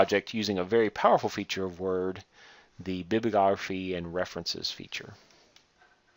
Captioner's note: click